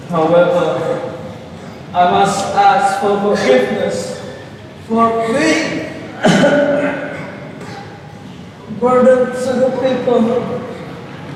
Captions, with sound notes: however I must ask for forgiveness, for being (coughs) a burden to the people